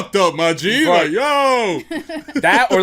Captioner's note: laughter